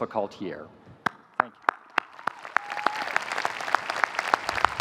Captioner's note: audience applauding